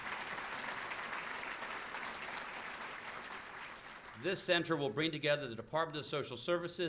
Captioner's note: applause